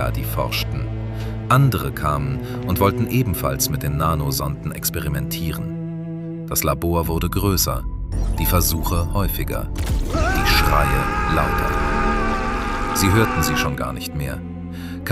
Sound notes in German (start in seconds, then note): 10.0 schreien; 10.1 stöhnen